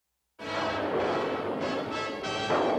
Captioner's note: thunderclap